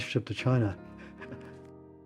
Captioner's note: laughing